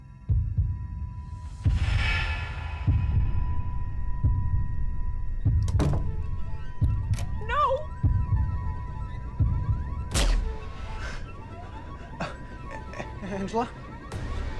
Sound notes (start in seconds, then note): 0.2 unsettling music; 5.5 door closes; 10.1 gunshot pops